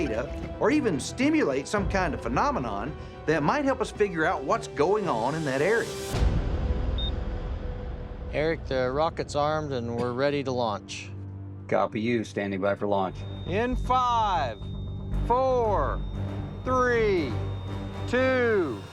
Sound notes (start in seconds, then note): 6.9 beeps